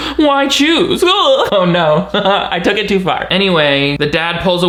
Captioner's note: chuckles